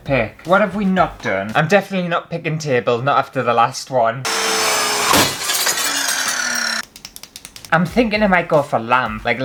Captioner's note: glass Shatters